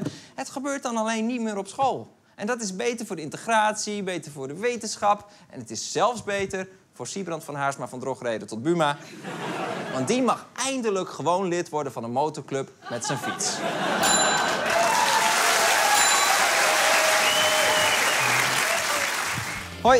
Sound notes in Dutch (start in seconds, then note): 12.8 Gelach; 14.3 Applaus